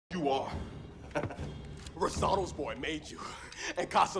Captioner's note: laughs